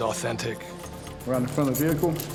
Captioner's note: handcuffs clicking